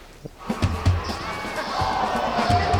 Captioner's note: game hubbub